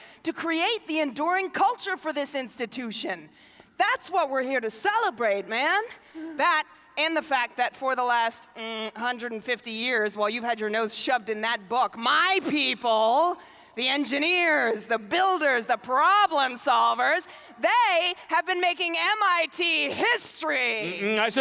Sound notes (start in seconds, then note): none